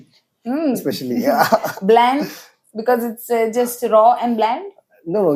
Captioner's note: laughs